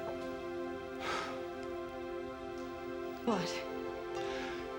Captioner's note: sighs